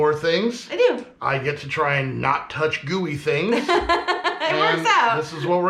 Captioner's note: laughing